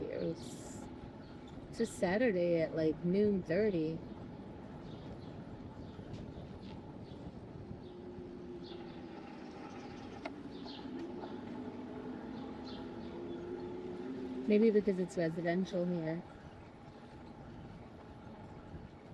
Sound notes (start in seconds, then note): 11.6 birds chirping